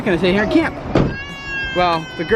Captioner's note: baby crying